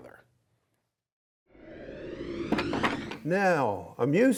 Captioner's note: air whooshes